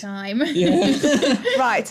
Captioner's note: laughing